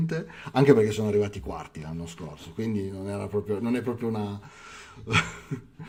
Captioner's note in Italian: risate